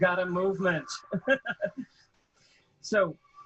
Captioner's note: laughing